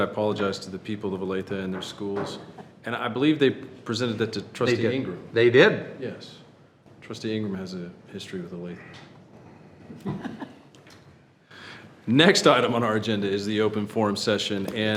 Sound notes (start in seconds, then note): 9.9 chuckles